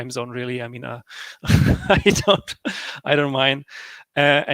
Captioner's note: laughs